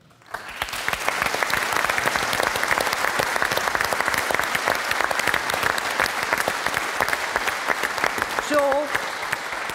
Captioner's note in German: Applaus